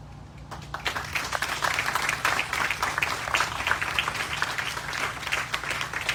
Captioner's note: applause